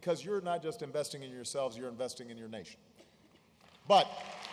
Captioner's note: applause